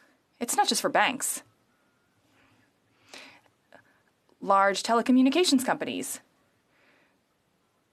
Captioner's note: speaking French